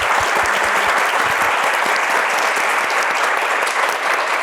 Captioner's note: applause